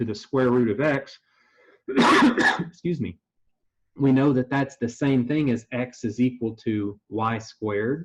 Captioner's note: cough